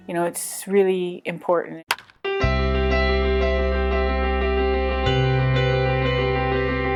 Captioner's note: bright inspiring music; bat cracks